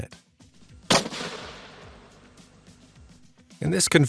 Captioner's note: gun blasts